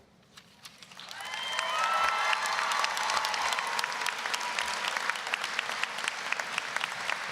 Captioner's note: applause, cheering; applause